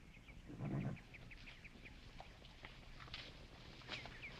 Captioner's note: horse snuffling